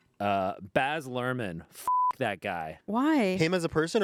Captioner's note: beep